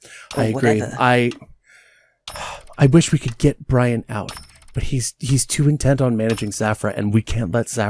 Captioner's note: sighs